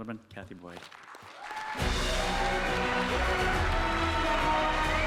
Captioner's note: audience applauding